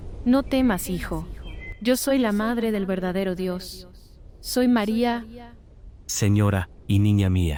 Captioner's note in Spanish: Voz - Virgen María